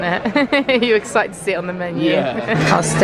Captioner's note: laughs